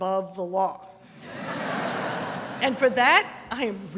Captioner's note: audience laughter